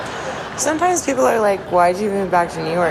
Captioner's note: voiceover